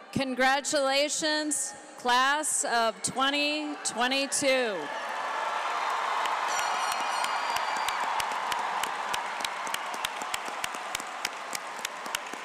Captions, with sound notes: Congratulations class of 2022. (audience applauds) (cheers)